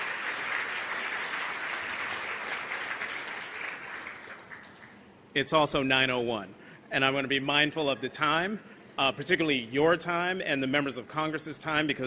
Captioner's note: applause